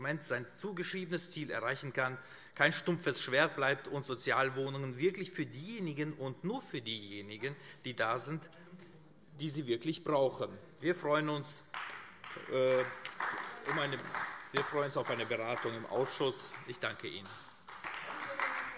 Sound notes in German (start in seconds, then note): 10.7 Beifall AfD